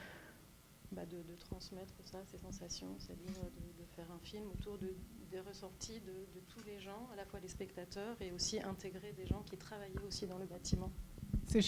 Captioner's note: speaking French